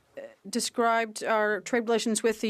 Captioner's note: speaking French